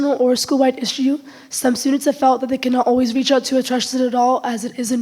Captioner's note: none